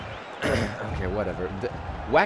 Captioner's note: clears throat